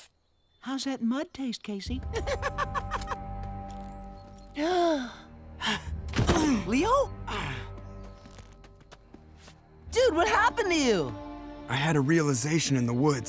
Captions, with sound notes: How's that mud taste, Casey? [gasping] Leo? Dude, what happened to you? I had a realization in the woods.